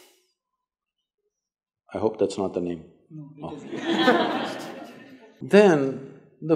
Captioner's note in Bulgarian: смях